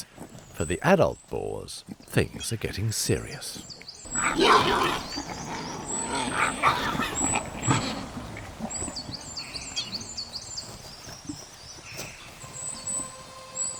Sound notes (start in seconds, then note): 4.0 boars roaring